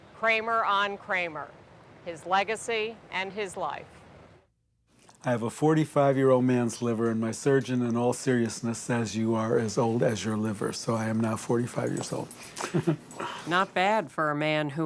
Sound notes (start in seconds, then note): 12.2 laughs